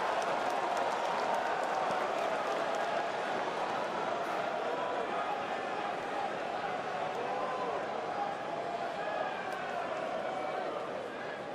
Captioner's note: crowd chatter